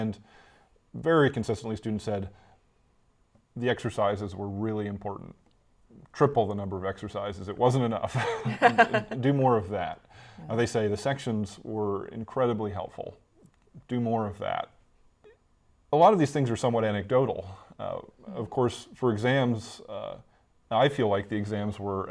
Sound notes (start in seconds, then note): 8.2 laughs